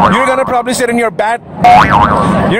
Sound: boinging sound; boinging sound

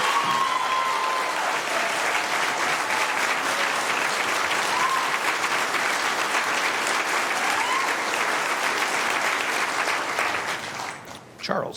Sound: applause

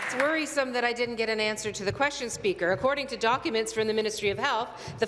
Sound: applause

